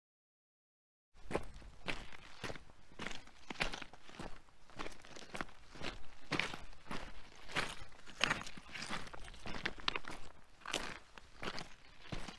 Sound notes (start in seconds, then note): 0.0 sound of walking